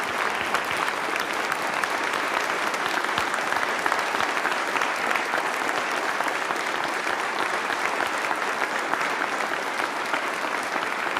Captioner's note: applause